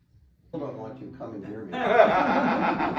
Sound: laughter

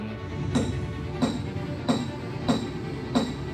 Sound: robot snaps

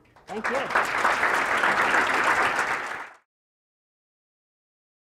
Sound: applauding

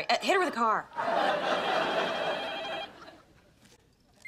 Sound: phone's ringing

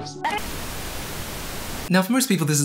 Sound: static

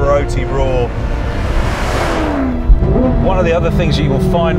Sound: engine roaring

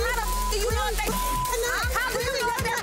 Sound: beep

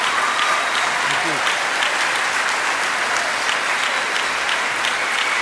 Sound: applause

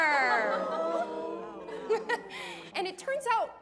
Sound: Janis chuckles

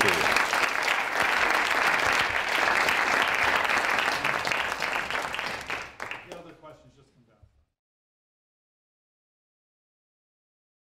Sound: applause

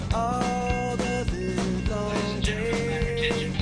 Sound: loudspeaker

